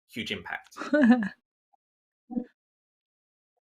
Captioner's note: chuckles